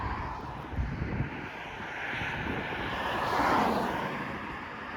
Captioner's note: loud traffic noise